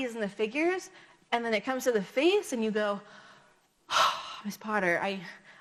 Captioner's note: sighs